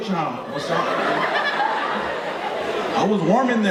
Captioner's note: audience laughing